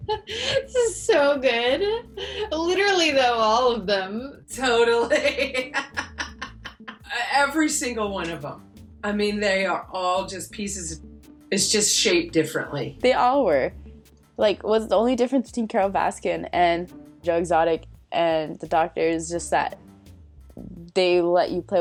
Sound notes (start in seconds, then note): 0.0 chuckles; 4.8 laughs